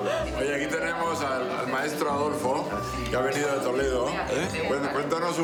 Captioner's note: speaking foreign language